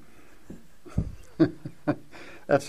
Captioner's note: laughs